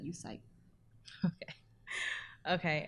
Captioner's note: laughs